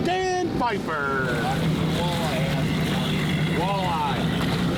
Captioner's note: engine rumbles